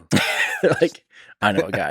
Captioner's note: Tim laughs